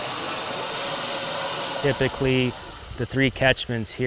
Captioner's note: water rushing